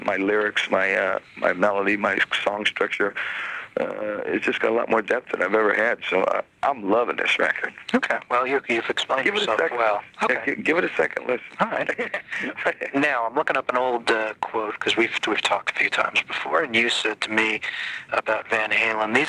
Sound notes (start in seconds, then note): 11.4 chuckling